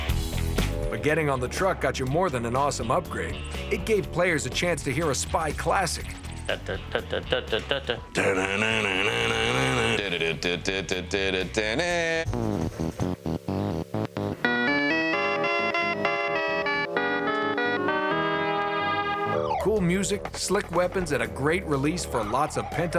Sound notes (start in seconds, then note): 8.1 humming; 13.6 theme music plays